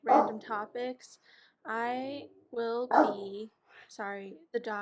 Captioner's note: dog barking